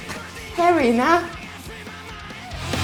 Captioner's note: slap